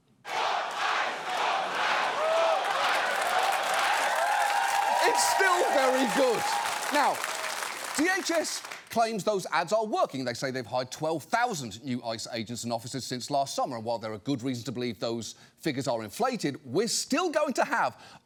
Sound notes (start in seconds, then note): 0.2 chanting; 3.8 laughs, cheers